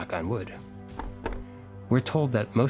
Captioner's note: knocking sound